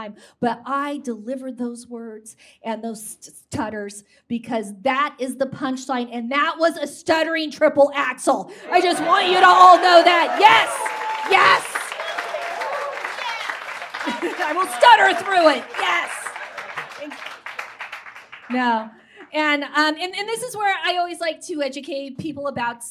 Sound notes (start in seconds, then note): 10.3 audience erupts in cheers; 14.0 chuckles